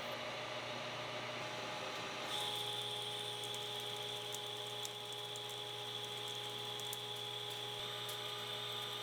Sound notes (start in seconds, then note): 4.4 machine whirring